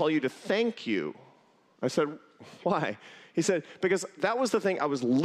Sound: laughter

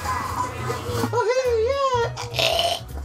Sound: choking

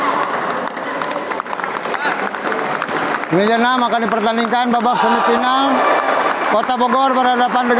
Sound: applause

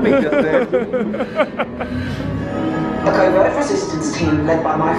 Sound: laughs; hologram voice

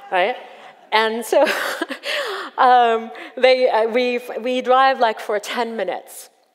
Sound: laughs

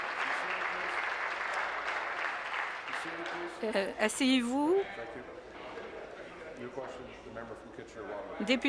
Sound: applause

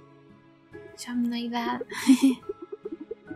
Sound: giggling

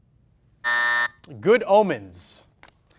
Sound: timer sounds

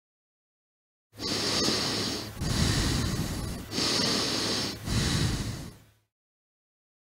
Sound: sound of breathing

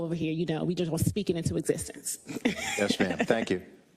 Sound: laugh

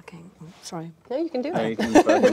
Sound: laughing

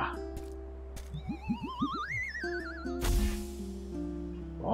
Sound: comical falling noise

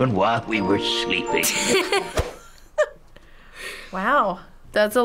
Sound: laughs

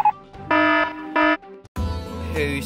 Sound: alarm

